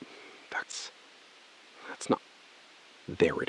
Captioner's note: SILENCE — 4 sec